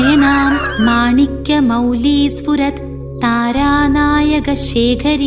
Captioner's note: chanting